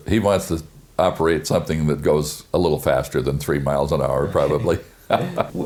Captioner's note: laughs